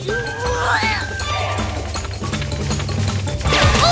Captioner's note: patter of running feet; grunts of effort